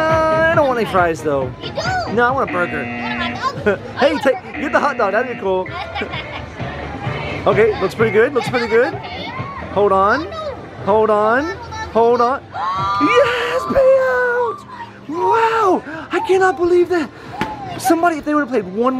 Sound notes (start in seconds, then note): 5.7 laughing; 12.4 gasping